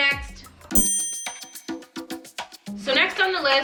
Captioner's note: sharp chime noise; upbeat music